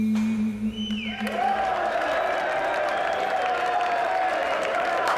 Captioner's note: applause and cheering